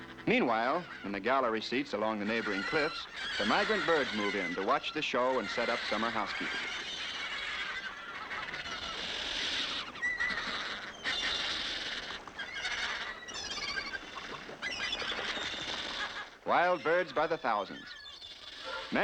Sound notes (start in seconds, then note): 7.3 birds screeching